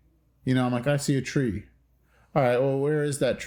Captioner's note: exhales